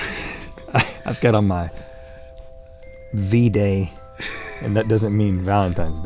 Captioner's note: laughing; laughing